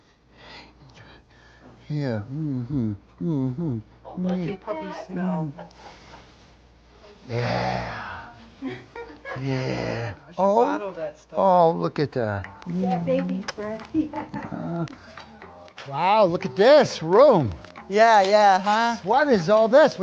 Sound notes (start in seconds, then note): 0.0 gentle music; 7.3 sniffs; 13.2 smooches; 13.5 chuckling